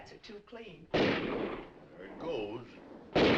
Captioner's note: guns firing